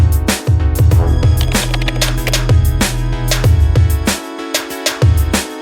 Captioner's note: upbeat music; keyboard clicking